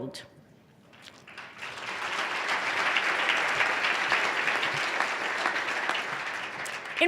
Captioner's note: applause